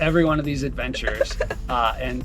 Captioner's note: laughs